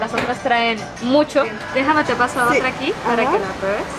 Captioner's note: in Spanish